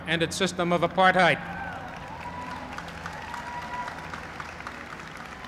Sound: applause

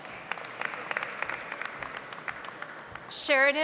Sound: audience applauds

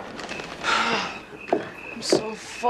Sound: sigh

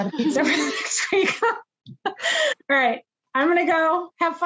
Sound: laughs

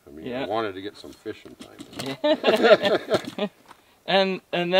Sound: laughing

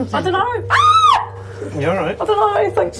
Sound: screams

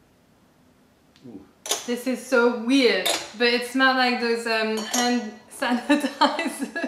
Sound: laughter

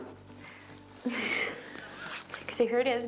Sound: iJustine laughs

